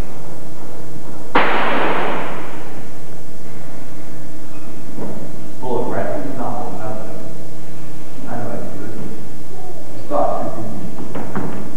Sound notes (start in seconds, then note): 1.3 gunshot